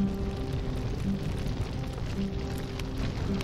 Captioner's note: flames roaring